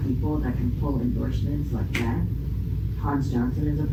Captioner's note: snaps fingers